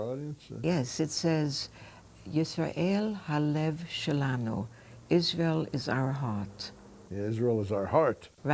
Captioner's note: speaking hebrew